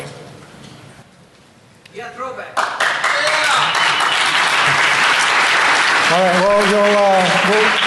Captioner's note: applause